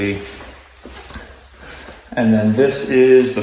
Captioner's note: footsteps thumping